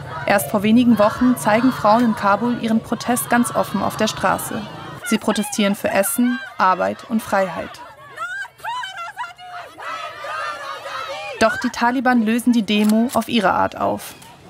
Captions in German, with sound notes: Erst vor wenigen Wochen zeigen Frauen in Kabul ihren Protest ganz offen auf der Straße. Sie protestieren für Essen, Arbeit und Freiheit. (Lautes Protestrufe) Doch die Taliban lösen die Demo auf ihre Art auf.